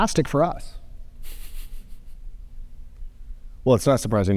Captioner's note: chuckles